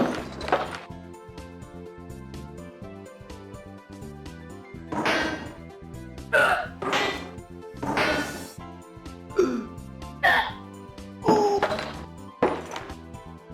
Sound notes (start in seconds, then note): 6.4 video game noises